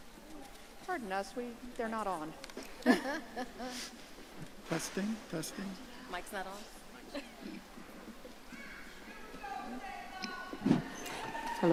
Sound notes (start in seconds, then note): 2.7 laughing; 9.2 audience cheering